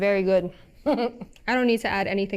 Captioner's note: chuckles